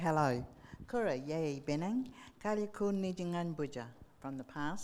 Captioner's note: speaking in foreign language